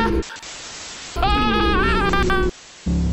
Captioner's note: screaming